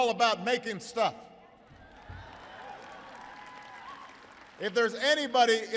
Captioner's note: applause